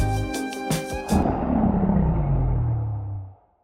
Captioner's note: Ender Dragon Roars